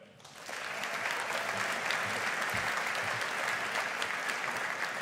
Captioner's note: audience applauding